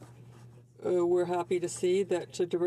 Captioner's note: speaking French